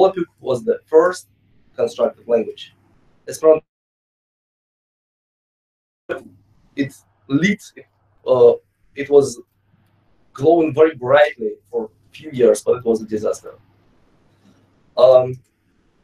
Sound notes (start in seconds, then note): 4.6 audio cuts out